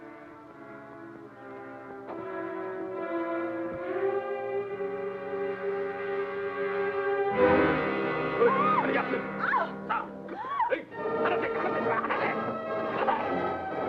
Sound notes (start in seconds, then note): 0.1 tense suspenseful music; 8.2 Pilar yells; 10.8 adventurous music